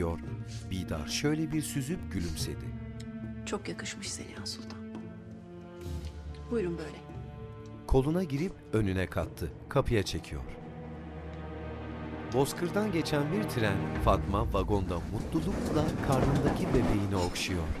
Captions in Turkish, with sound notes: Çok yakışmış Seniha Sultan. Buyurun böyle. (Müzik - Gerilim) (Tren sesi)